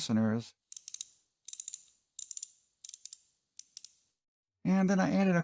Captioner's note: ratchet sounds